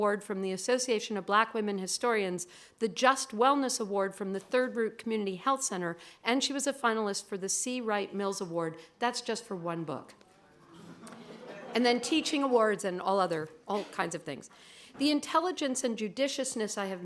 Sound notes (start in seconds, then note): 10.7 laughter